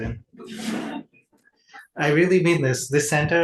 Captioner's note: audience laughs